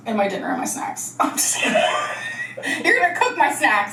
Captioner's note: laughs